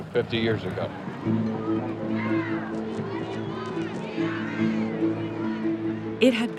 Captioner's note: crowd chanting